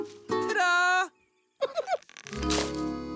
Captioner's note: giggles